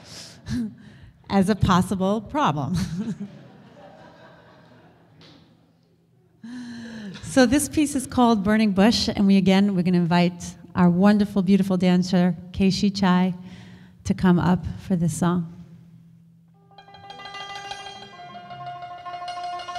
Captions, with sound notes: as a possible problem. (audience laughter) So this piece is called Burning Bush, and again, we're gonna invite our wonderful, beautiful dancer Kaeshi Chai to come up for this song. (folk music)